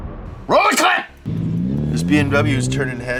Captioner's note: logo moans; engine revs